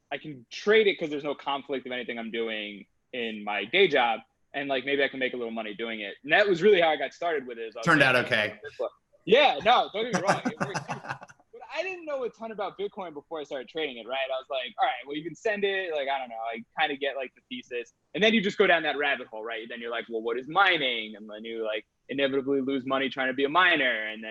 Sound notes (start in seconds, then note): 10.0 laughs